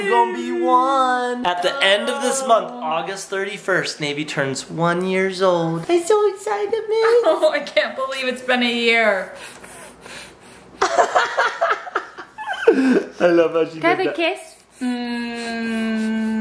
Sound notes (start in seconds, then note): 9.3 sniffles; 10.9 dad laughs